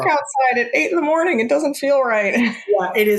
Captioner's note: laughs